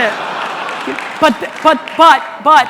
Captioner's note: audience laughing